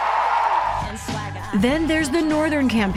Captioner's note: cheering and applause